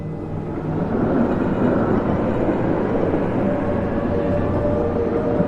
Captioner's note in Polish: the sound of a moving streetcar